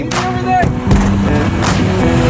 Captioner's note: car door thuds; car engine humming